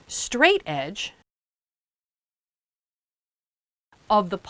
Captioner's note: no Sound Present